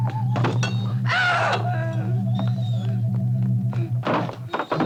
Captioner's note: Cleo screams